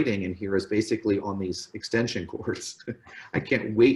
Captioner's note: laughs